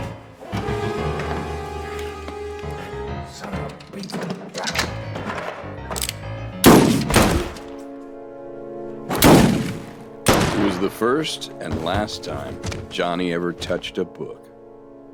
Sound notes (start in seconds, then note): 0.0 dramatic music; 6.2 guns firing